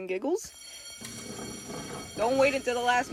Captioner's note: school bell rings